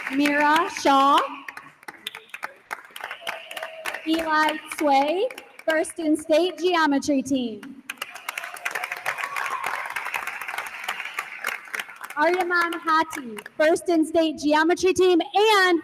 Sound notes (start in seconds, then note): 2.8 attendees continue applauding; 7.8 attendees applauding; 8.3 attendee cheers